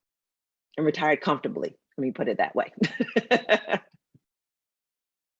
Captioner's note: laughs